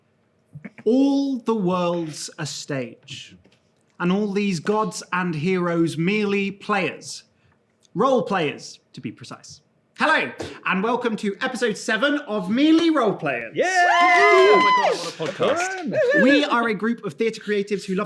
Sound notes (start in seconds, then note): 13.5 players cheer